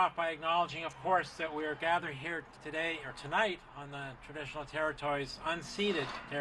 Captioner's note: speaking French